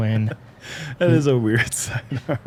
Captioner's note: laughs